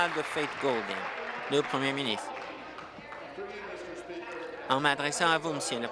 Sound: applause

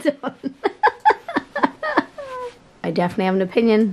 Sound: laughs

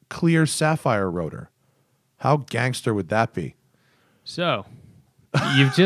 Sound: laughter

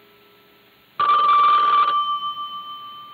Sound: telephone ringing

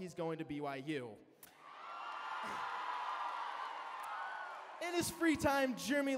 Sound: cheering

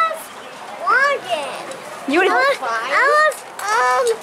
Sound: baby talk

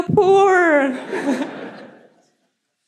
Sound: laughter

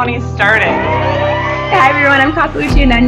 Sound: cheering

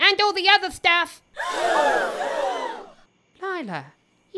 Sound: collective gasp

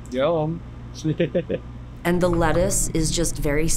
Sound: man laughing

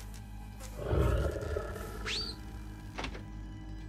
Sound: growls

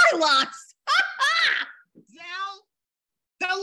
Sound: laughs

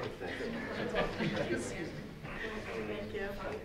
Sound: audience laughs

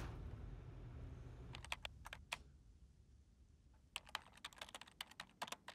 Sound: ominous music; keyboard clacking

